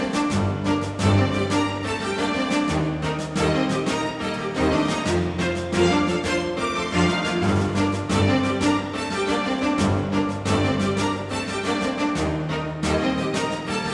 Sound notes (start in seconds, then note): none